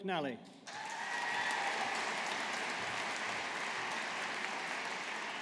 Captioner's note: audience applauding